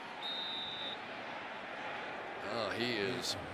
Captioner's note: whistle